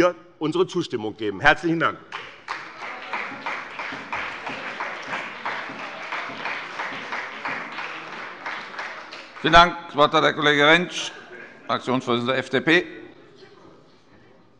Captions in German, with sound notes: unsere Zustimmung geben. - Herzlichen Dank. [Beifall bei dem BÜNDNIS 90/DIE GRÜNEN und der CDU] Vielen Dank. - Das Wort hat Herr Kollege Rentsch, Fraktionsvorsitzender der FDP.